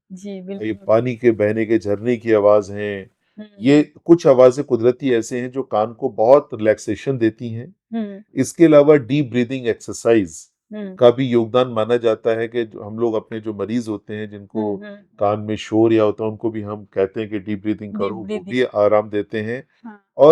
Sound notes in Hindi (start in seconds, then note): 2.4 गला साफ़ करने की आवाज़